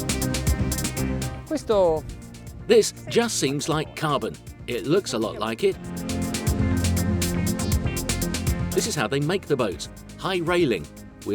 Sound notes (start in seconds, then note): 1.6 speaking foreign language; 5.8 electronic music